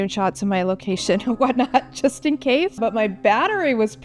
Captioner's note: laughs